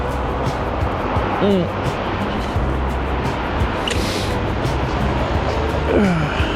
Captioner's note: grunting